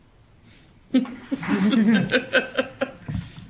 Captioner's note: laughs